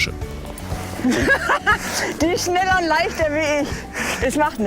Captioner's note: laughing